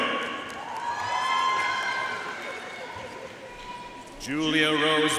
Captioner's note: audience cheering and applauding